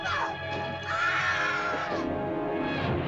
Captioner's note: suspenseful music; woman screams; suspenseful music